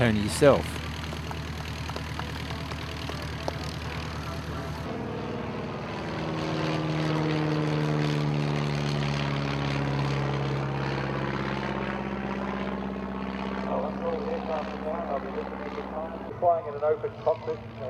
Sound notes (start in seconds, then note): 1.1 aircraft sounds